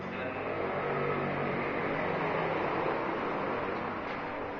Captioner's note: motorcycle sound